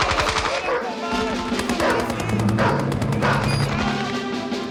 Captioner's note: dog barking